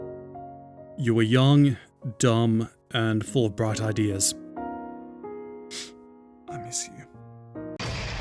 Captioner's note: sniff